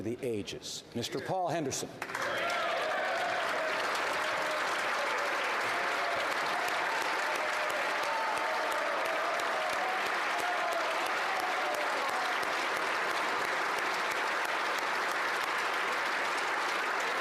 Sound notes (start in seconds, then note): 5.9 applause